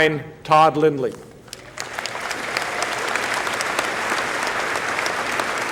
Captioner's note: applause